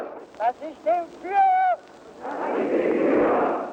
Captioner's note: hitler speaking german; crowd repeating oath